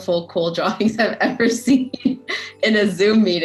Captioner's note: chuckling